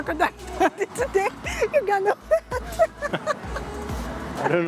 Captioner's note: laughs